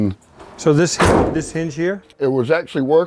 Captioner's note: hood thudding